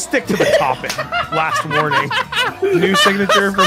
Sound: laughs

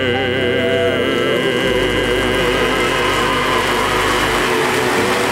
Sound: audience cheering

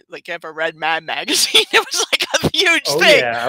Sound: laughs

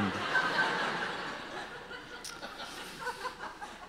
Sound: audience laughter

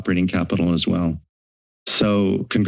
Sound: silence

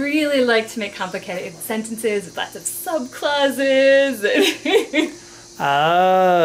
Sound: laughter

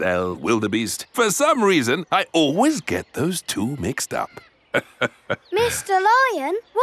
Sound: laughs

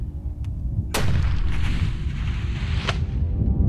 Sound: gunshot

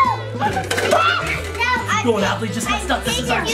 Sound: screams

